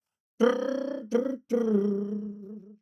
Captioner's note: imitates music